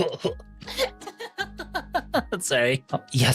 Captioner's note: laughs